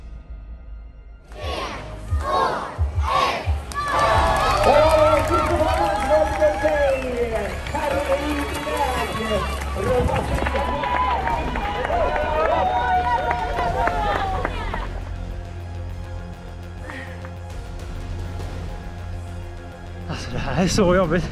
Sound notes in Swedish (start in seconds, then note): 5.8 Applåder